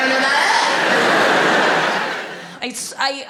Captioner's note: audience laughs